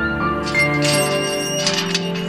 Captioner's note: Gate opens